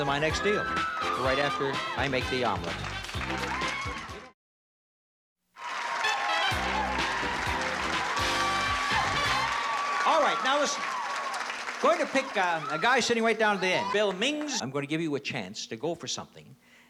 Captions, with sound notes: on my next deal, right after I make the omelet. [APPLAUSE AND CHEERING] - All right, now listen, going to pick a guy sitting right down at the end, Bill Mings. I'm going to give you a chance to go for something that